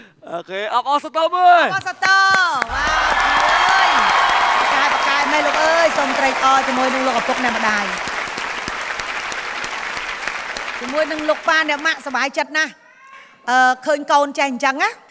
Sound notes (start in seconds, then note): 8.2 applause